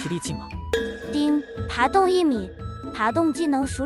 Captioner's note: ding!